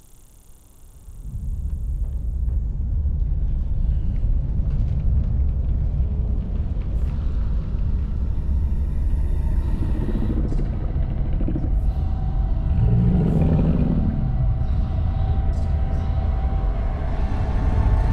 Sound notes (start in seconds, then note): 2.6 ominous music; 9.1 monster growls